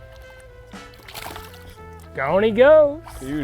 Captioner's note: water splashes